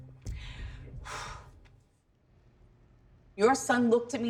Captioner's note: sighs